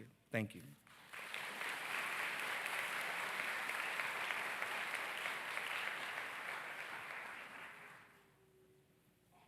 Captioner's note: audience claps